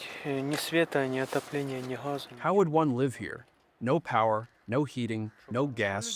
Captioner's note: through translator